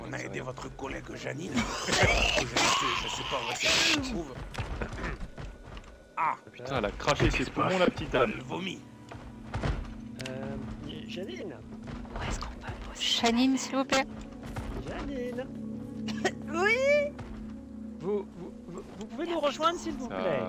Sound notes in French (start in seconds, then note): 16.0 tousse